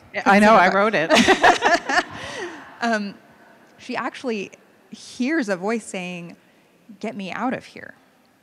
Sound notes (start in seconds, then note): 1.1 laughing